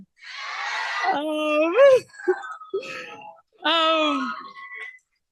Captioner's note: cheering